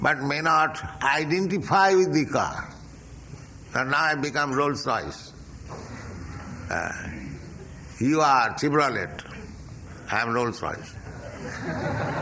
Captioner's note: laughter